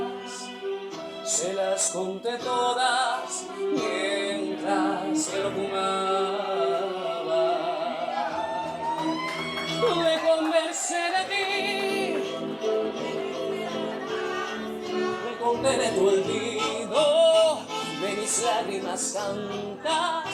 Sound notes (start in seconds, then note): 7.5 cheers; 14.1 audience responds